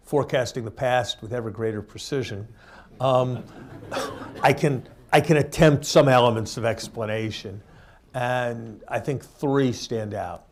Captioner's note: laughter